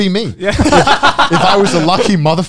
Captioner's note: both laugh